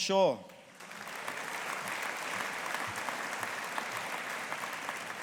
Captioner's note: audience applauding